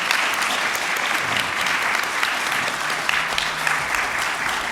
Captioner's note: applause